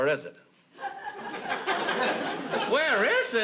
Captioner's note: audience laughs